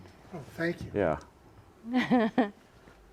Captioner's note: laughs